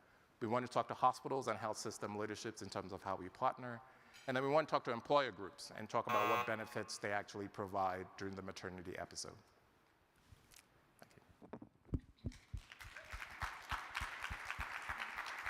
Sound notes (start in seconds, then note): 6.1 timer buzzing; 12.6 crowd applauding